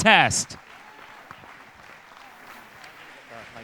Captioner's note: audience applause